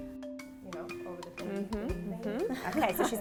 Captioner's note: slow upbeat music; chuckles softly